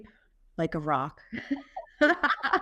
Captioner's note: laughter